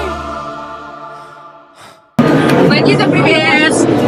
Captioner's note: inhale and exhale